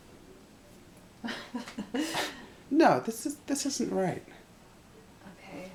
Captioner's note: uneasy laugh